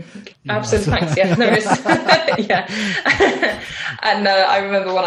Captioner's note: laughs; both laughing